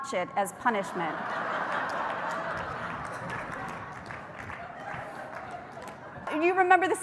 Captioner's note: laughter